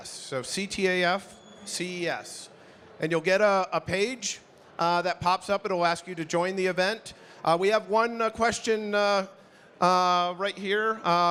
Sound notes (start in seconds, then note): none